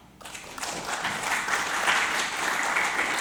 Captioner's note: applause